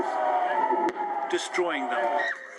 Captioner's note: woman screaming